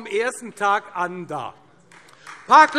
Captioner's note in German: Beifall Freie Demokraten